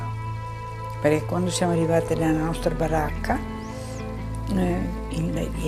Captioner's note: speaking in foreign language